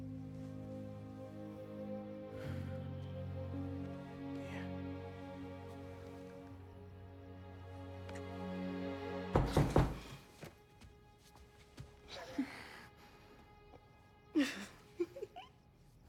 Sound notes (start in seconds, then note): 9.3 knocking; 14.4 laughs